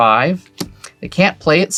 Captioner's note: card slaps